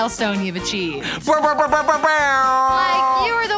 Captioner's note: imitating air horn